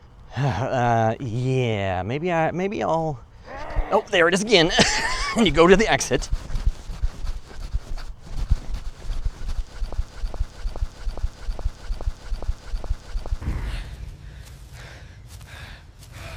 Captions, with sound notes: Yeah, maybe I'll, [Scream, closer this time] Oh, there it is again, I need to go to the exit..